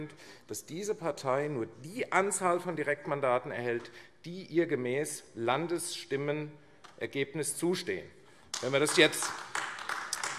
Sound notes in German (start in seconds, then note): 8.5 Beifall AfD